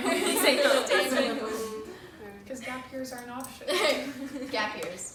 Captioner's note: laughter